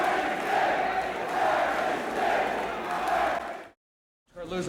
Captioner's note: crowd cheering